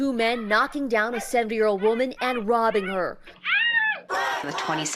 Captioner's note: woman screaming